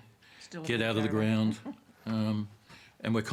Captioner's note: chuckles